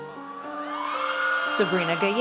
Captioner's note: audience cheers